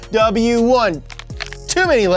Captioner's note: cracks neck